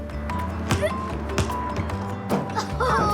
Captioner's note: grunts; groans